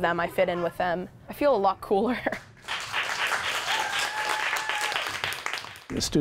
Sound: laughs

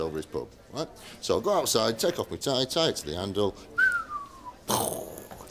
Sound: whistles with explosion at the end

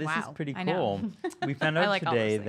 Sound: laughing

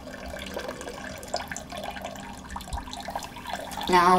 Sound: water trickling

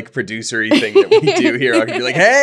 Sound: laughing

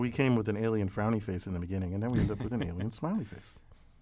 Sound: laugh

